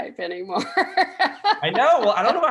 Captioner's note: laughing